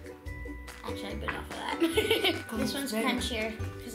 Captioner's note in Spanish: se ríe